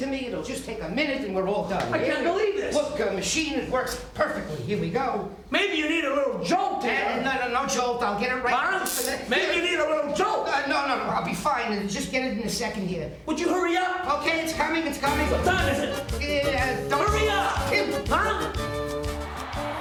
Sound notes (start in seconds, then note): 8.8 taser buzzing; 18.5 lively music